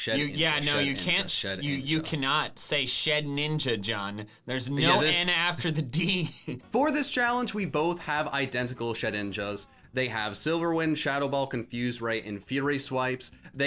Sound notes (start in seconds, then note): 4.8 laughs